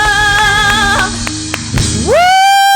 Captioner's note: applause